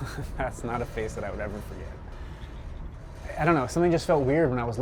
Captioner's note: chuckles